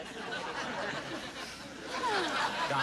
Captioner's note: laughter